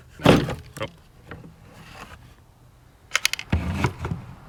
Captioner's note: plastic banging